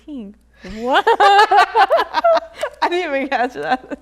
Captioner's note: laughter